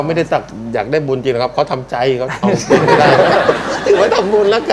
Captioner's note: laughing